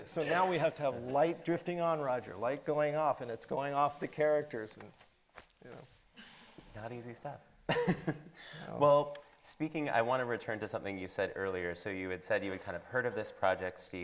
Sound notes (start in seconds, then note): 8.1 laughs